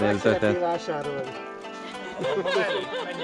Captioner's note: laughter